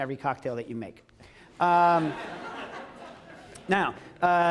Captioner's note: laughter